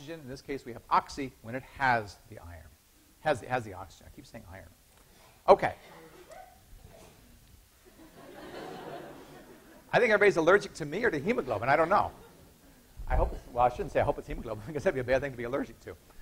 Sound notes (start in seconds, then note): 5.7 student sneezing; 7.8 students laughing